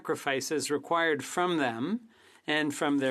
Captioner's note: speaking French